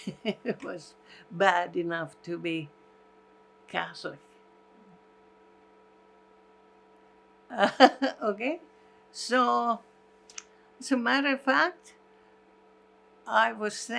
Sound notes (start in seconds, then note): 7.8 laughing